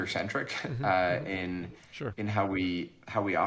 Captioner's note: chuckles